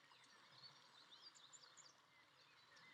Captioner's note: none